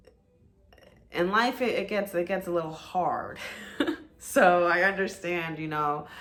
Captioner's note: giggles